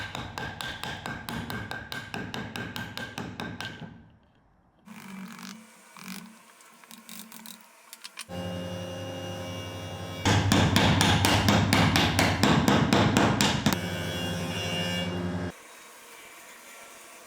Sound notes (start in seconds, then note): 8.4 saw buzzing; 10.2 hammer thudding; 13.9 saw buzzing